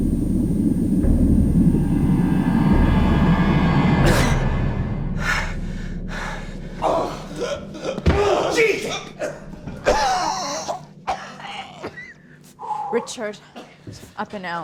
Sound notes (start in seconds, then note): 6.9 gasping; 9.4 coughing